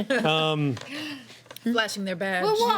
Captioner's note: laughing